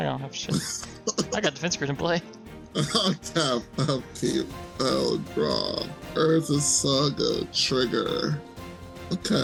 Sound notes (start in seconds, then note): 3.2 laughs